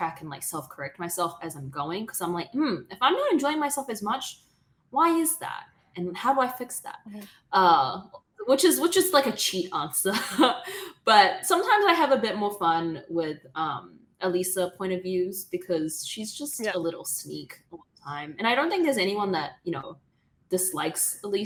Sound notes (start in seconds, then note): 10.4 laughs